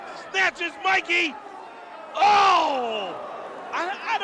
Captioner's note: crowd cheering